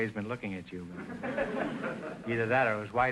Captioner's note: audience chuckling